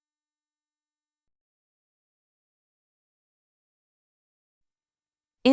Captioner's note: no sound